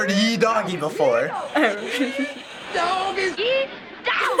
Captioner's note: giggling